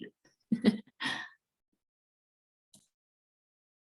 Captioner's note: laughs